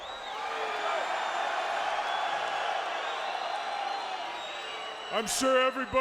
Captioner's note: applause